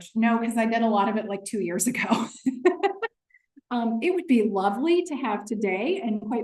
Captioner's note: laughter